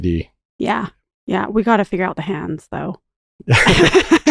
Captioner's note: chuckles